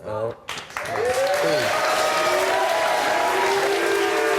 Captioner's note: audience applaud; audience cheer